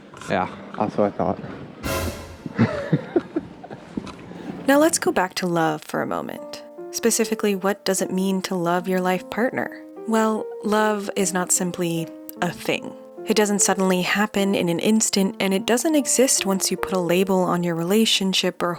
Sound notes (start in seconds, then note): 1.8 suspense sound effect; 2.5 laughs